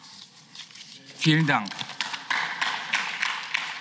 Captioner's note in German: Beifall